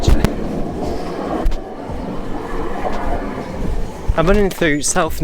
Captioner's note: passing Tram over Level Crossing